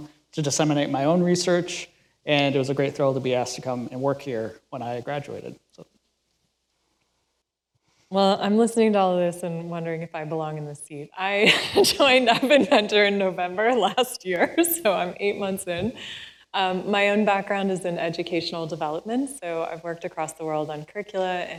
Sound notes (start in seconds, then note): 11.5 laughs